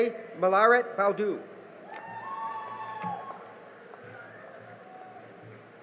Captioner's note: cheering and applause